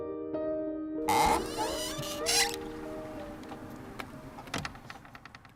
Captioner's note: loud door creaking